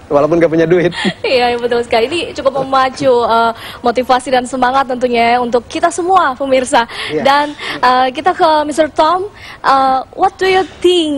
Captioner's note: non-english speech